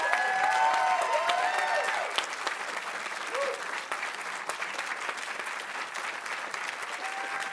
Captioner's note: audience cheering; audience applauding